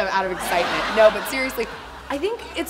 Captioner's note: audience laughing